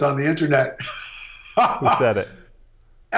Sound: laughs

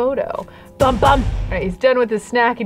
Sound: gun shots

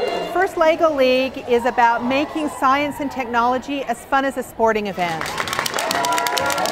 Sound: applause

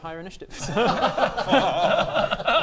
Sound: laughs

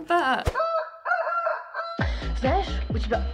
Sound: rooster crowing; woman speaking Russian

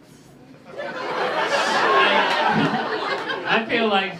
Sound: laughter

